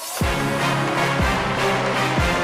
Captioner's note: cheers and applause